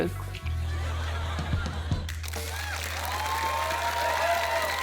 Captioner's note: applause